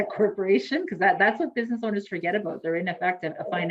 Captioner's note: laughs